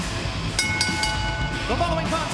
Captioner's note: bell ringing